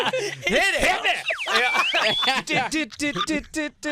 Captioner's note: slide whistle; humming